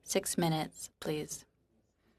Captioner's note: speaking French